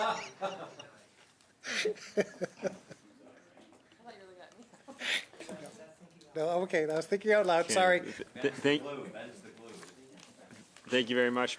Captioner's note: laughter